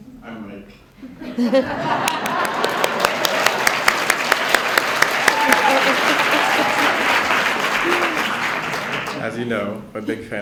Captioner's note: laughter and clapping